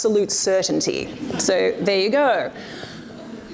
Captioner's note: audience laughs